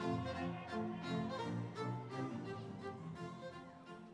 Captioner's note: audience cheering